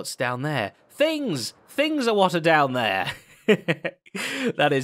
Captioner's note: chuckles